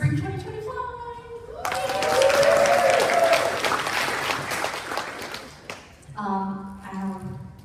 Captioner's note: applause